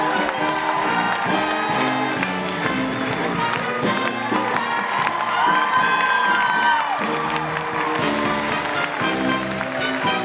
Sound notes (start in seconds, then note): 0.1 jazzy music; 4.8 audience cheering and clapping continues